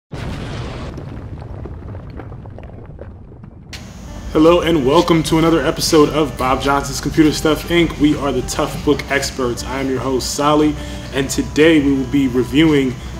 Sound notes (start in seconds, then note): 0.1 explosion